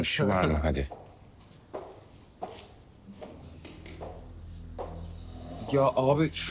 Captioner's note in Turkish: Ayak Sesi